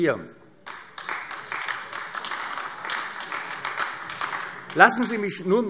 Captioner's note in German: Beifall AfD